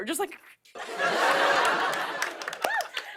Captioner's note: laughter, applause